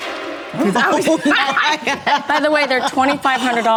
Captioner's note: Kyle laughs